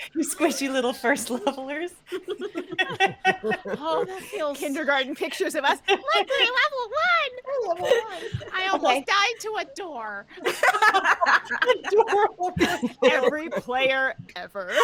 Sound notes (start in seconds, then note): 10.3 all laughing